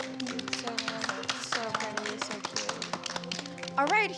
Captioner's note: applause